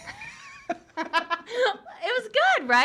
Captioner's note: laughing